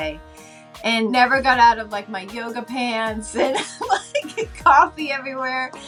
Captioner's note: laughing